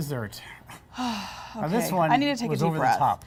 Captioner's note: sighs